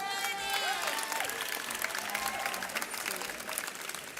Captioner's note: audience cheers